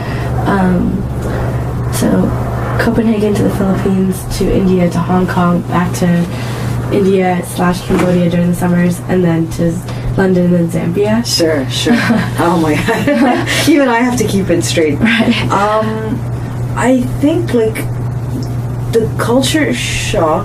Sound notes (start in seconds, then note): 11.8 laughs